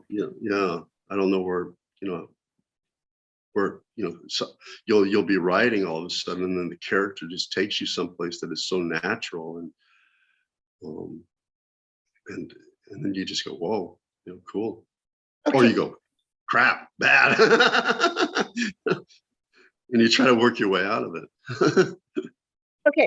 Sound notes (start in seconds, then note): 17.0 laughter